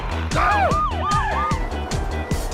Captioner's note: alarm rings